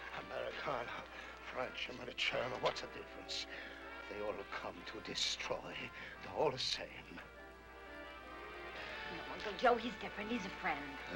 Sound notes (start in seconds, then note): 1.9 speaks in Italian